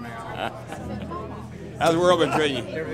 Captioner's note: laughing